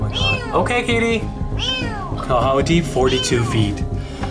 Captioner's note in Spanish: Maullidos